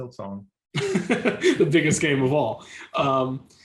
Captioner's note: laughs